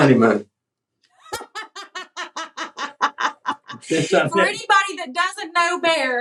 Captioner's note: laugh